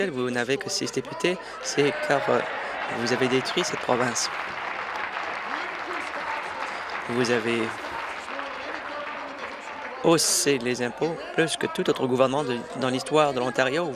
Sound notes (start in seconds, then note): 7.8 applause